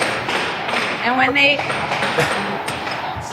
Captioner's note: clinking